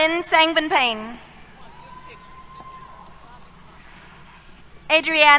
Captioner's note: cheers